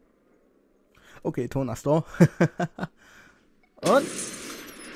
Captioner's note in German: Lacht